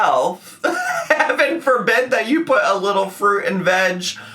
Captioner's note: laughs